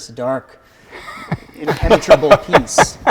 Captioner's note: laughing